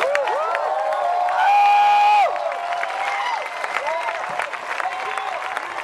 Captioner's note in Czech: Potlesk